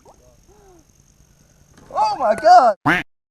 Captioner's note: gasping; duck quacking